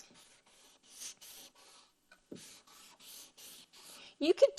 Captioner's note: marker scribbling